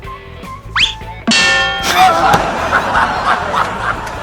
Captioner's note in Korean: 빵터짐